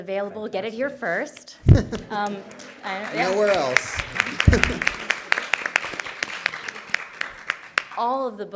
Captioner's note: applause